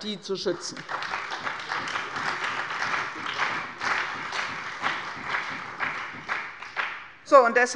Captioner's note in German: Beifall bei der CDU und dem BÜNDNIS 90/DIE GRÜNEN